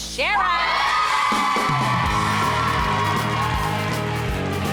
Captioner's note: all cheering